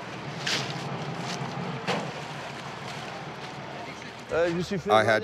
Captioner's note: speaking in foreign language; racks clanking